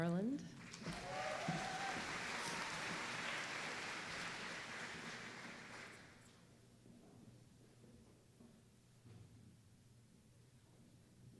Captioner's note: applause